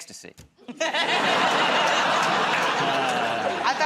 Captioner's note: laughter